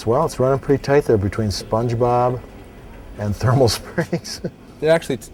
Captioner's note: laughs